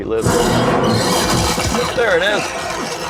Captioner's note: loud piercing sound; loud eerie sound